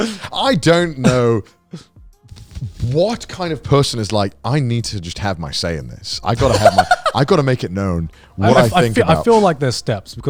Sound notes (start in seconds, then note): 6.4 cackling